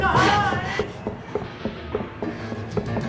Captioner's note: footsteps running; panting